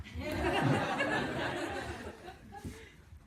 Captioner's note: laughter